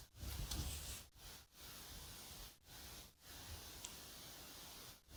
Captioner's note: rub rub